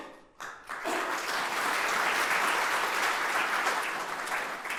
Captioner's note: audience applauding